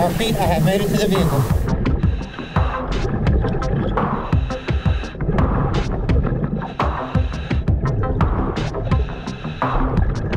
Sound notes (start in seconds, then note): 2.0 tense pulsating music continues; 4.0 continuous heavy breathing through mask; 6.2 continuous water bubbling